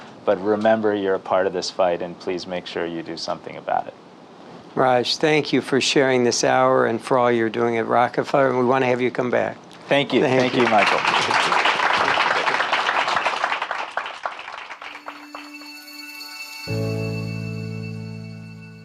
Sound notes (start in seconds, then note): 10.2 crowd applauds; 14.8 calm music